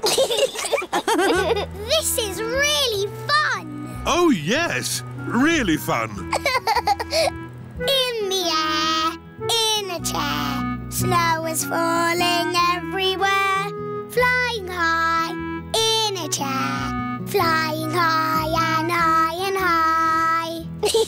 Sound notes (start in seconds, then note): 0.0 laughter; 5.9 laughs